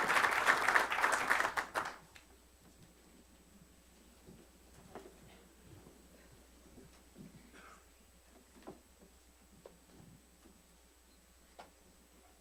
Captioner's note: silence